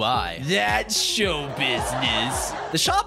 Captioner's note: laughtrack